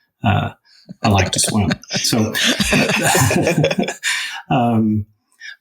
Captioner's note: crowd laughing